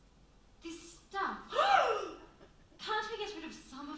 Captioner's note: women gasp